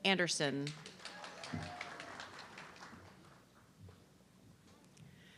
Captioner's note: audience clapping